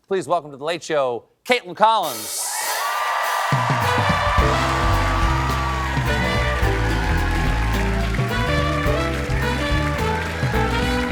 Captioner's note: cheers and applause